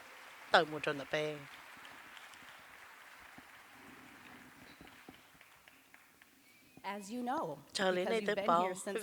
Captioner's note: cheers and applause